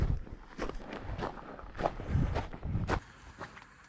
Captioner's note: light steps